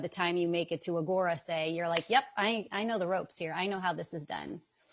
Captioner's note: claps